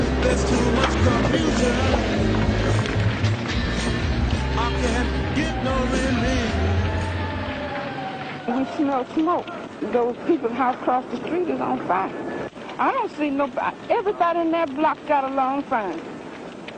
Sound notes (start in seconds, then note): 8.4 female voice